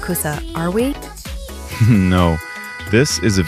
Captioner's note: laughs